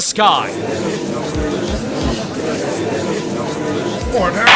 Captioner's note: gallery chattering